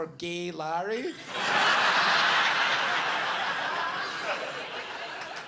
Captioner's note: audience laughing